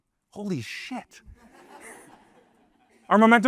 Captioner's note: laughter